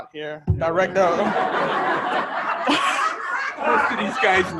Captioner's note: audience laughing